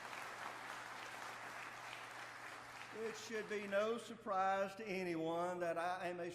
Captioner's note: applause